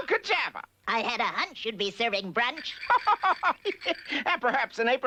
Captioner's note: laughs